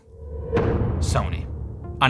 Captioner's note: deep, echo-y impact sound